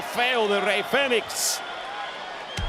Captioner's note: applause